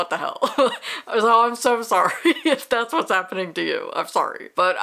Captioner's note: laughing